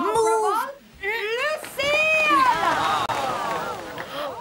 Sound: audience cheering; all gasp

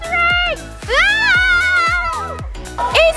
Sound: children shouting

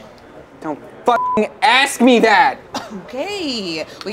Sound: beep

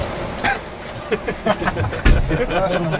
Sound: смех

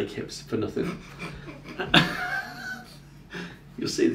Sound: laughing

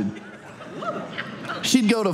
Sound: audience laughs

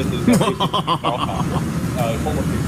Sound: evil laugh

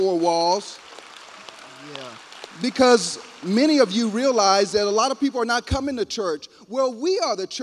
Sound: applause

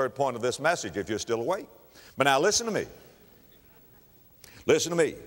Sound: audience chuckle

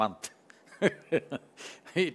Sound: laughs

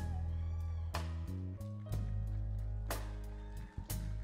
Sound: audience cheering

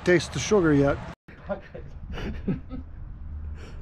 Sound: laughing

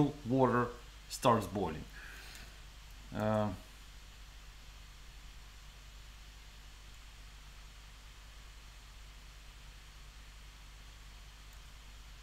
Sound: silence

